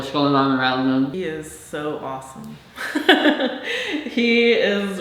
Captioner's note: laughs